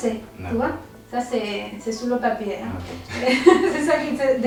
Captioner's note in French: rires